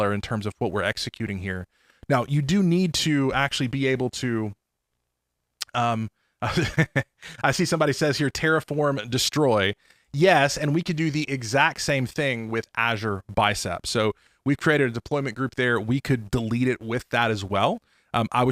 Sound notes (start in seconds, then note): 9.7 chuckling